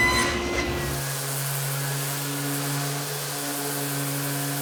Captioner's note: sander whirring